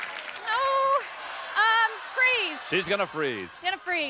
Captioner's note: applause